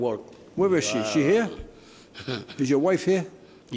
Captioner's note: groans